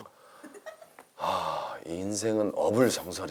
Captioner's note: sigh